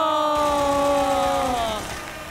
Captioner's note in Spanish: Aplausos